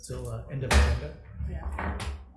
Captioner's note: gavel bangs